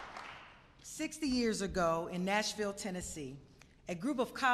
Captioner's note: applause